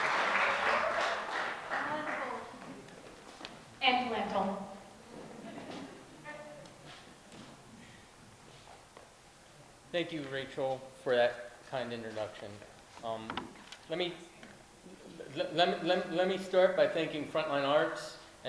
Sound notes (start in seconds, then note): 0.0 applause